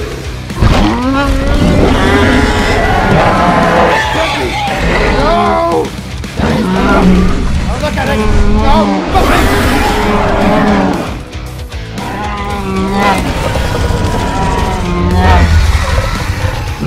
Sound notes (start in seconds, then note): 0.5 Indominus roars; 11.9 Indominus Rex growls; 13.3 Bumpy moans